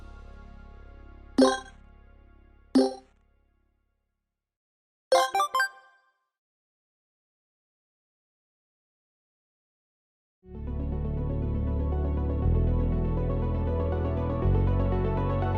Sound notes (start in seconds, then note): 1.4 electronic chimes; 11.3 serene music